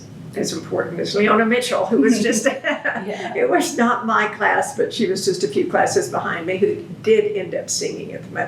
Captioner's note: laughs